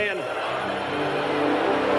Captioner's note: crowd applauds; crowd cheers; dramatic spirited music